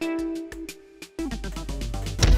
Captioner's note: none